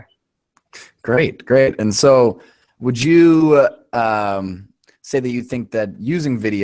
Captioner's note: voiceover